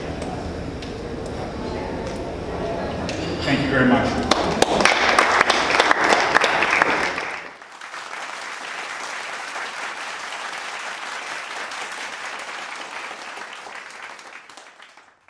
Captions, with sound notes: Okay. Thank you very much. (audience applause) (applause)